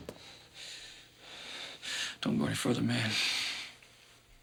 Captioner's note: breathing heavily